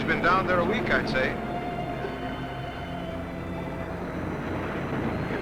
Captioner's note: waves crashing